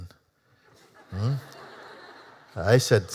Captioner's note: Lachen